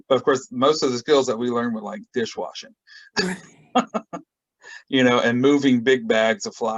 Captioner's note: laughs